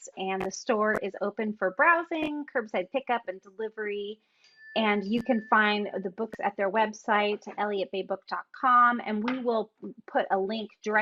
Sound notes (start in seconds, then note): none